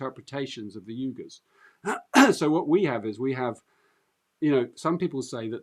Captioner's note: clears throat